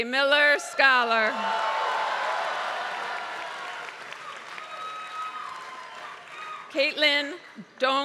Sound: applause

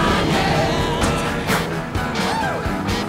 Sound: whoosh

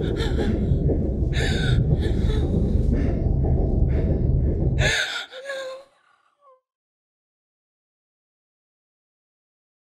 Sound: she continues to cry

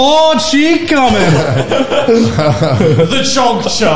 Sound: laugh

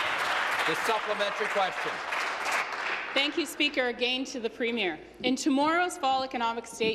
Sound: applause

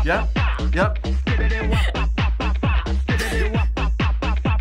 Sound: laughs

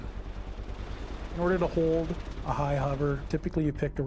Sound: voiceover

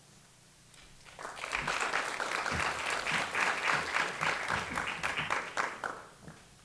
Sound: applause

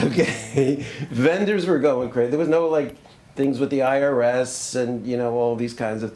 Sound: laughs

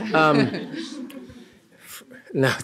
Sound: laughter

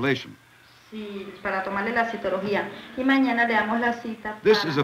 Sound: speaking Spanish

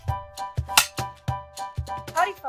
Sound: slate claps

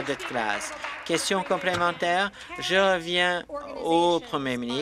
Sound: applause

